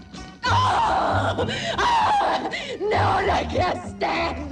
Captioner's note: screaming